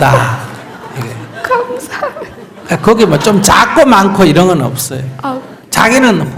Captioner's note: questioner Laughter